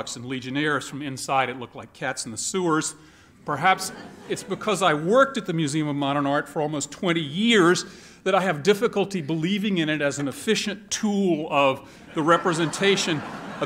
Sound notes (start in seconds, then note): 3.7 laughter